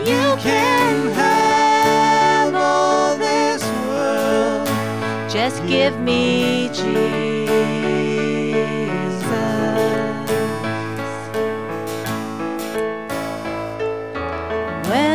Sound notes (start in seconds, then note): none